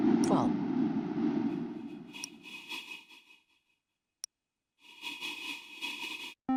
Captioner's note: light whooshing